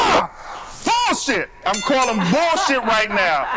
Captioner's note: yells; boxing bell dings